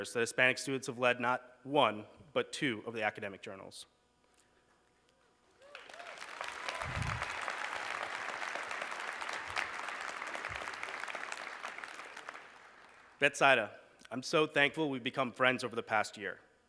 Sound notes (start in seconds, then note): 5.5 applause